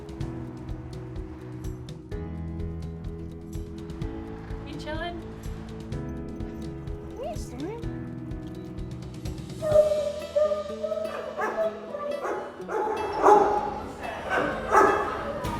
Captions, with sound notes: (gentle music) You chillin'? Hey Storm! (dog barks) (dogs bark)